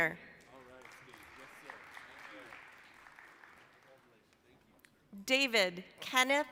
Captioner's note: applause